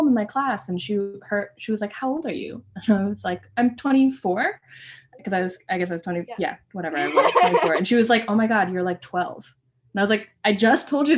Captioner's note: laughter